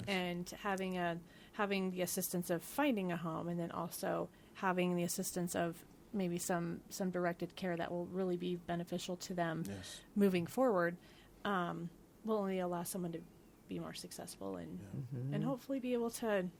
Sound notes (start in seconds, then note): none